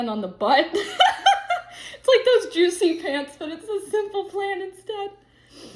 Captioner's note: laughs